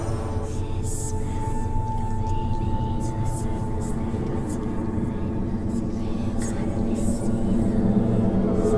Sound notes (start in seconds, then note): 0.0 dramatic music; 0.7 eerie whispering